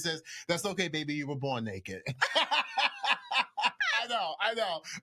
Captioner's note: laughs